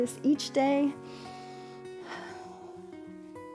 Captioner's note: inhales and exhales